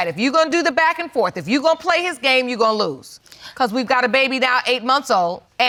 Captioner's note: none